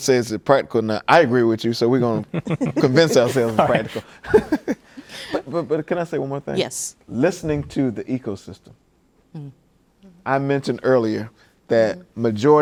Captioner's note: laughing